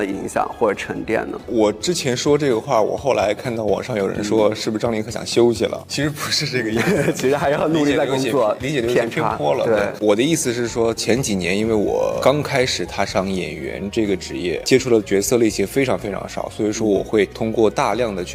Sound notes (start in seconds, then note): 6.1 laughs